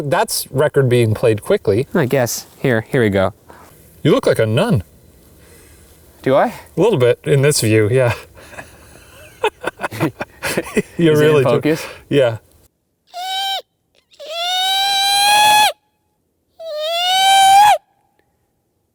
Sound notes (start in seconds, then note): 8.1 laughs; 14.1 squeaks shrilly